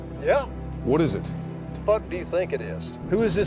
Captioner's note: on phone